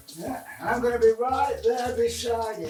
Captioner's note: shower runs